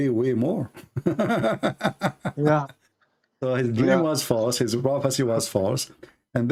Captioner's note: Ketawa